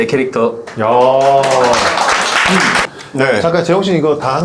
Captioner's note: applause